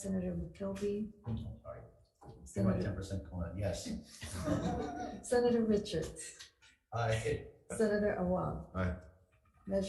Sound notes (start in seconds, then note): 4.2 everyone laughing